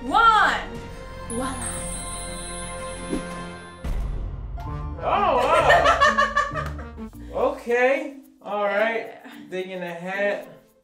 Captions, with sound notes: Voila'. (drum beat) - Oh wow. (laughing) Okay. All right, digging the hat.